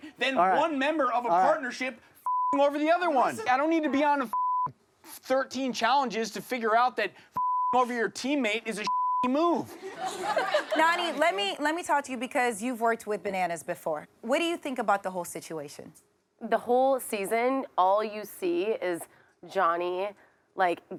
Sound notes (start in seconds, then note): 2.2 beep; 4.3 beep; 8.8 beep; 9.7 audience laughing